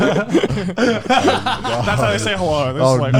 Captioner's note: all laughing